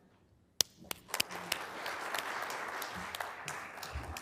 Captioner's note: applause